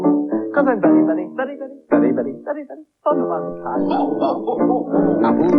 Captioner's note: Cauldron Laughs